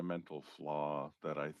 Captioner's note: speaking English